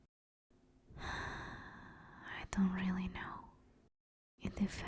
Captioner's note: sigh